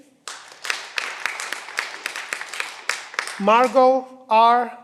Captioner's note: cheering